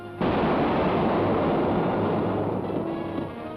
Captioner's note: gun fires